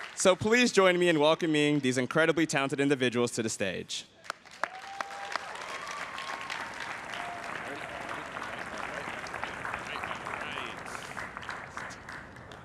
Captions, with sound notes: So please join me in welcoming these incredibly talented individuals to the stage. (everyone cheers and applauds)